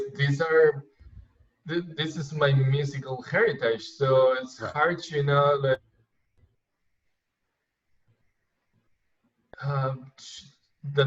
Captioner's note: glitch